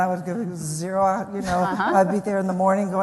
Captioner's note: laughs